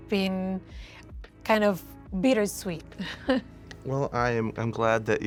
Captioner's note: chuckling